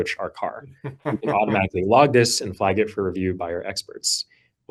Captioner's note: laughs